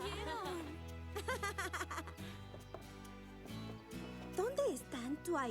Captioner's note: chattering